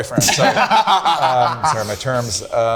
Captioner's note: group laughing